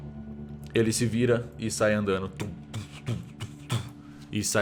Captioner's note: heavy footsteps